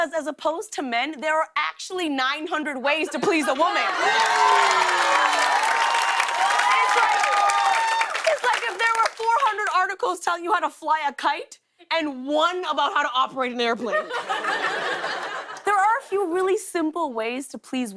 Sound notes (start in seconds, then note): 3.6 cheers and applause